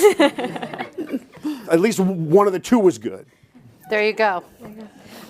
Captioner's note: chuckles